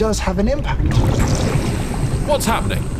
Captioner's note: acid burbles